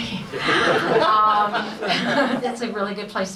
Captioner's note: audience laughs